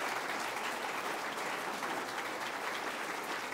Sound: applause

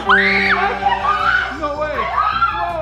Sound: victory music; screaming

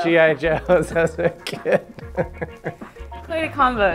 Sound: laughs

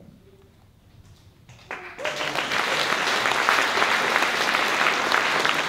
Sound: applause

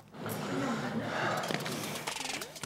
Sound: sigh

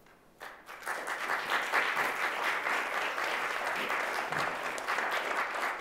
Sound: applause

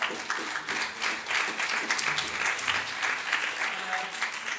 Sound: audience applauds

